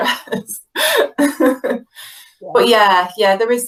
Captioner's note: laughing